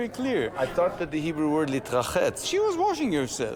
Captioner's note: speaking Hebrew